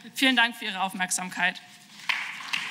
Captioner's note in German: Beifall